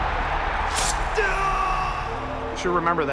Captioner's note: shouts from the crowd; cry of pain